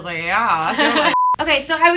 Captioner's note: laughter